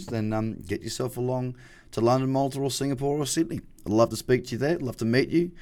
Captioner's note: none